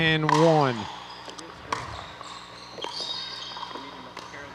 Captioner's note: ball bouncing